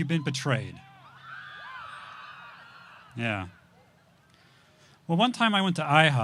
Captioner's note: audience shouts